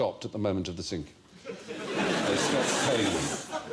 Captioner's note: disbelieving laughs